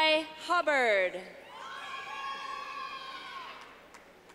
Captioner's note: clapping